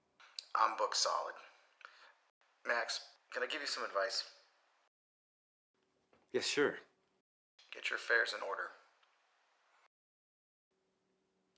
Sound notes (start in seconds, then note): 0.3 Marco On Phone; 7.5 Marco On Phone